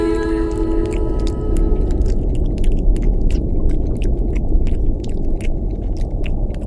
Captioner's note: brooding music; flesh squelching